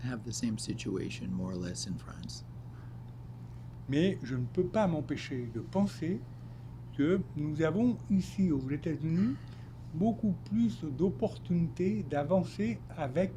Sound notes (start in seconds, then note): 3.7 speaking French